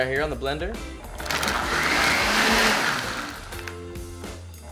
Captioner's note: blender whirring